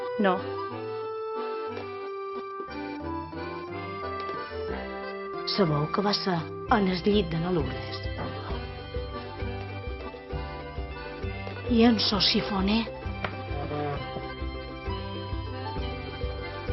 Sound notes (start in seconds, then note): 5.1 whispers; 8.1 sighs; 11.6 whispers